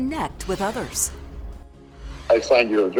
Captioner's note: air whooshes